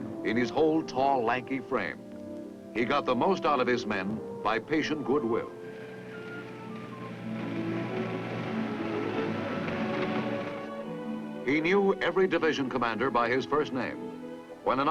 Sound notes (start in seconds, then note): 6.0 Jeep engine rumbling; 6.0 gentle orchestral music